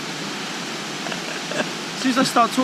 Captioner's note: cameraman laughs